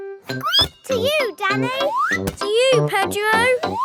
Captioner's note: squeaks